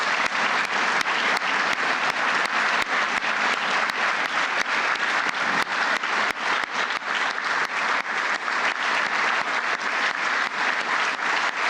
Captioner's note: applause